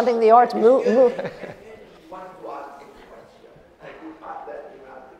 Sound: man speaking in audience

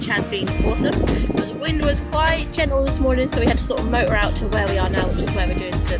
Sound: wind blows ironically

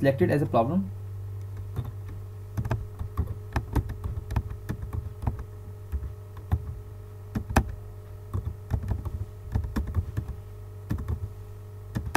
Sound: typing Sound

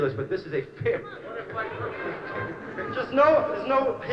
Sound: shouts from audience

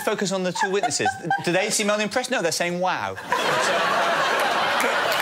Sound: cheers; applause

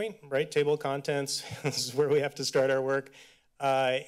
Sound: chuckles

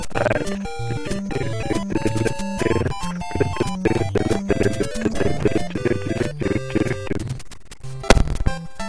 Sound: humming along to Level Music

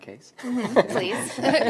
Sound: everyone laughs

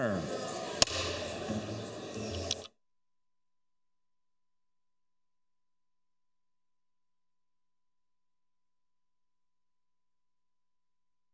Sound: pounding of gavel

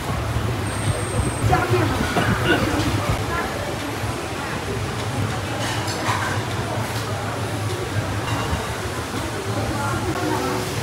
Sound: some fella coughing 🤧

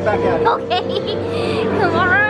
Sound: laughs

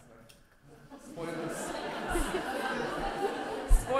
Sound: laughter

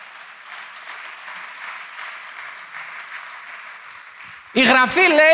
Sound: applause

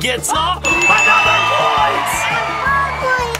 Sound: buzzer ringing

